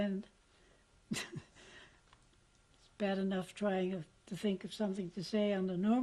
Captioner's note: laughs